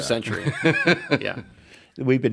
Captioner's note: laughs